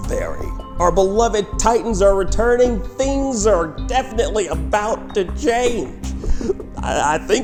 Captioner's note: inhale